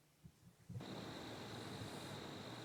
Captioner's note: cricket sounds